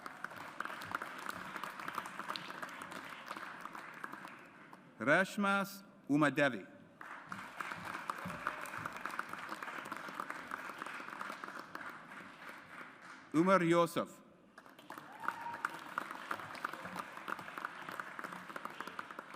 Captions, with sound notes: (AUDIENCE APPLAUDS) Reshma Umadevi. (AUDIENCE APPLAUDS) Umar Yousuf. (AUDIENCE APPLAUDS)